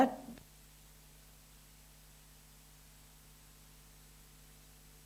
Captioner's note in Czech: videu vypadl zvuk